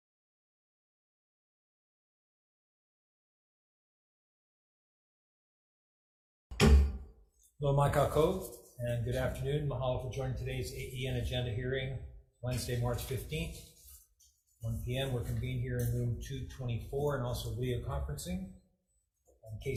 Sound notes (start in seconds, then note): 6.5 gavel bangs; 7.7 speaks in foreign language